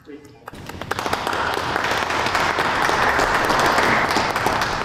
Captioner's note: audience applauds